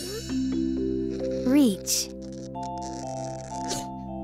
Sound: straining

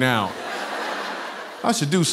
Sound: laughter

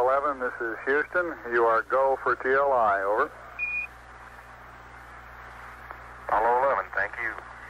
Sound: radio beeping

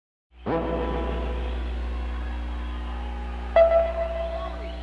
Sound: crowd cheering

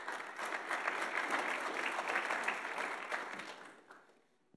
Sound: audience applauding

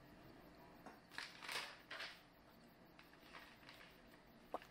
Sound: paper rustling

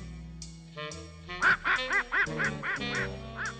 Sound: quacking

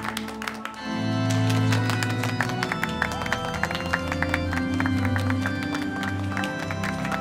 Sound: group applauds

